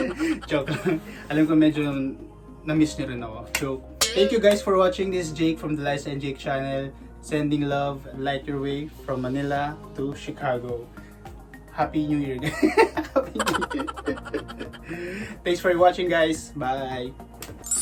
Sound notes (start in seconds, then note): 12.6 laughs